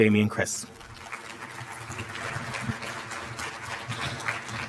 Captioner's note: applause